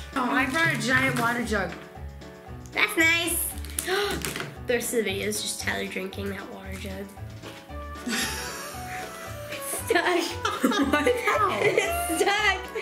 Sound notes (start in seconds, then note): 3.7 gasping; 8.0 laughing